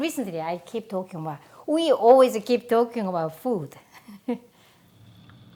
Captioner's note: laughs